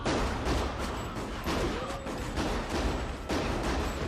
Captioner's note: gunshots